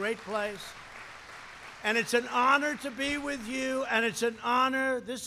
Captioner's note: applause